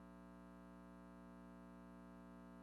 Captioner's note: none